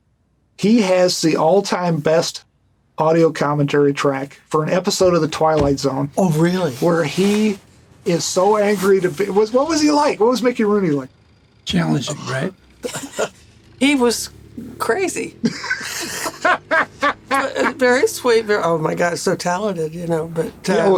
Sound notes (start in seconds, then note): 15.3 Gilligan laughing; 15.4 laughter